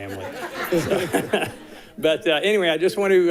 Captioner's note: all laughing